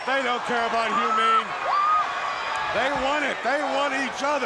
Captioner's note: crowd cheering